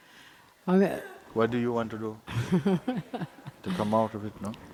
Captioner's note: questioner chuckles